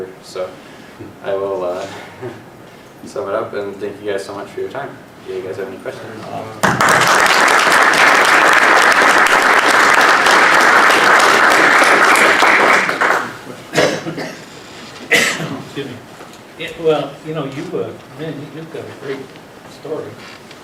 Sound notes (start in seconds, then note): 1.0 laugh; 6.6 applause; 15.0 cough